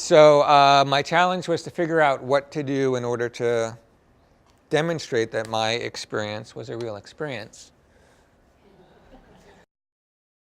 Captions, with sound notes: SO, UH, MY CHALLENGE WAS TO FIGURE OUT WHAT TO DO IN ORDER TO DEMONSTRATE THAT MY EXPERIENCE WAS A REAL EXPERIENCE. [LAUGHTER]